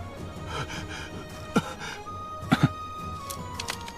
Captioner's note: panting